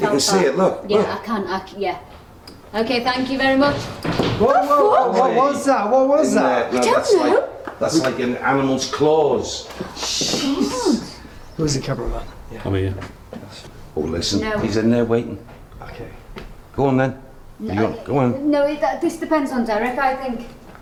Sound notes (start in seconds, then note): 4.4 all exclaiming; 4.4 rattling